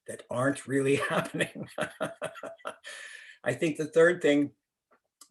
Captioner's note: laughter